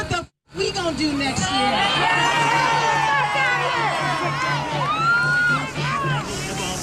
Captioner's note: crowd cheering